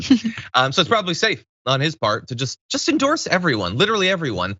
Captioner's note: laugh